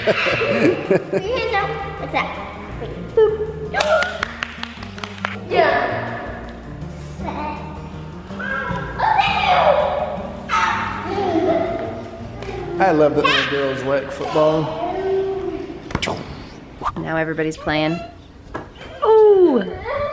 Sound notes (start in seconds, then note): 0.0 laughing; 3.8 clapping; 10.8 girls laughing